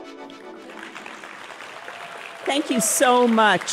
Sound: applause

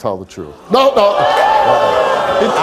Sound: audience shouting

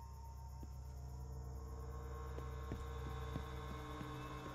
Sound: footsteps thudding

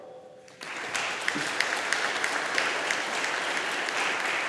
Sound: audience applauding

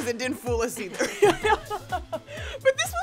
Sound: both laughing

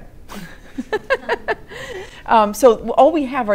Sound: laughter

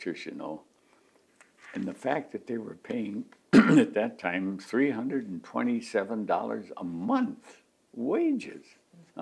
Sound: clears throat

